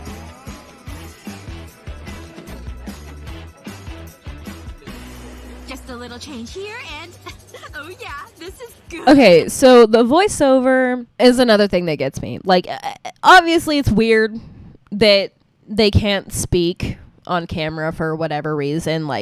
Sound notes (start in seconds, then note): 12.5 confused noise